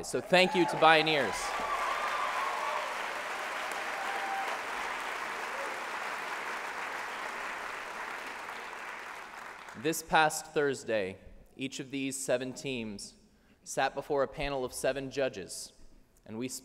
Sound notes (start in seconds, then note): 1.6 applause